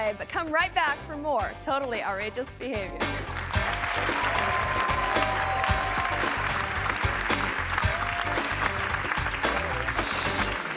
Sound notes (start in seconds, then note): 3.2 audience applauding